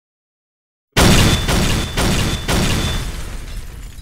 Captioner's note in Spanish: Explosión